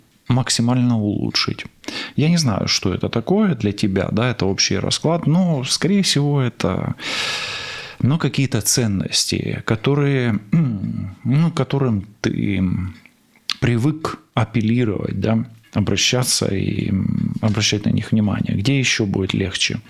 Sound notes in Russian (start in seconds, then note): 7.0 тяжело вздыхает; 7.8 вздыхает; 10.5 откашливается